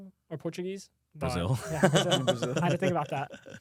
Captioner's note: laughs